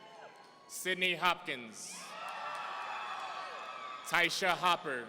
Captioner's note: audience cheering; audience cheering